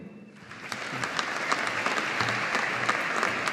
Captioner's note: audience applauding